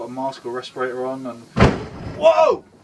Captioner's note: sailing boat collision noise